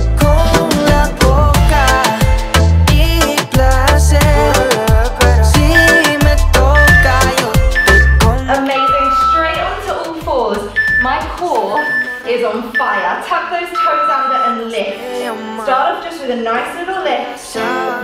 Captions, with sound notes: (timer beeping) Amazing. Straight onto all fours. My core is on fire. (timer beeping) Tap those toes under and lift. Start off just with a nice little lift.